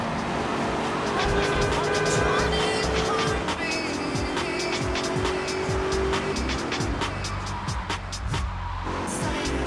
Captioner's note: tires screech